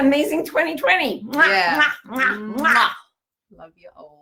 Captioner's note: lips smacking